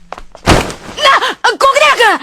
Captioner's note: bam!